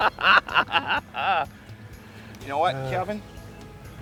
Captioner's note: laughter